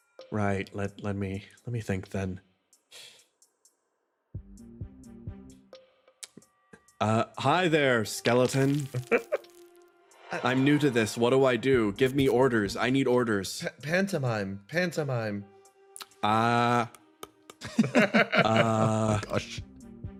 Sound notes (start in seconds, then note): 8.9 laugh; 16.9 clacks Teeth; 17.4 laughs